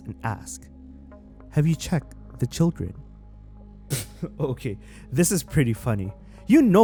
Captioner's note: pfft